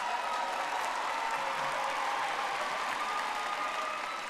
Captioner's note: audience applauding